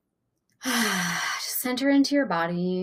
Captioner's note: exhaling heavily